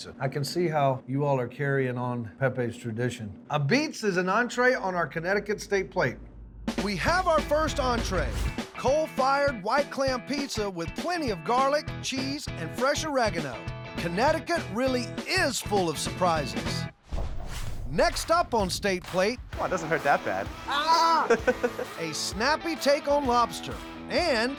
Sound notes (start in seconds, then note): 20.6 laughing